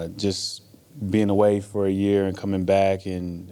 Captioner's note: none